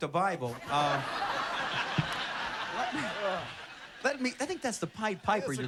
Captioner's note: laughter